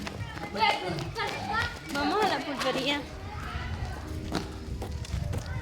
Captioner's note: children shouting